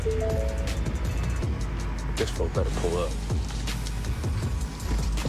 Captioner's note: chiming